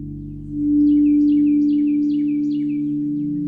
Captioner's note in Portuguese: Pássaros a chilrear